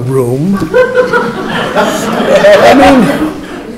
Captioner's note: laughter